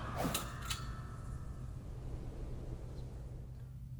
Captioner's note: clicking noise